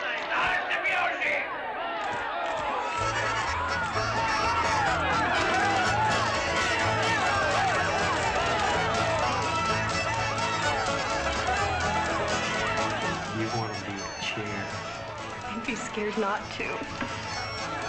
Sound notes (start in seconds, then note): 2.7 festive chatter; 2.9 lively music